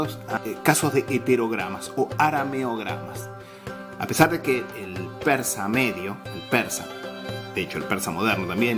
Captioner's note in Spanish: farsi